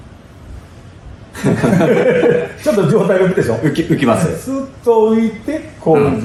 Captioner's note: laughs